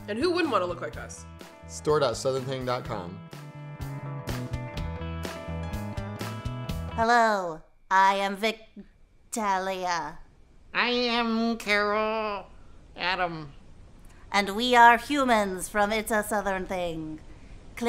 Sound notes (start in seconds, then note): 3.9 upbeat music; 7.1 both speaking in robotic voices